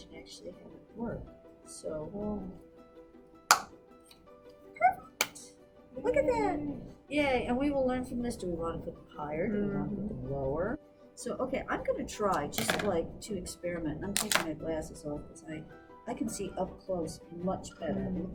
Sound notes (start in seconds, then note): 3.5 another SNAP